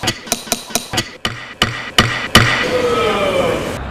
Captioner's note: incessant gaveling